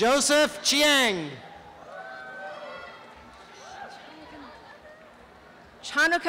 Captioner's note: applause and cheering